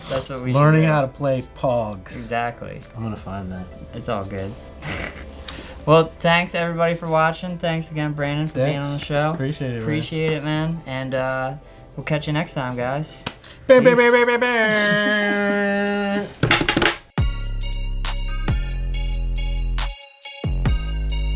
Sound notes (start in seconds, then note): 4.7 laughs; 16.1 slapping on the table; 17.1 upbeat hip hop music